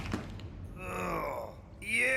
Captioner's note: Sam Groaning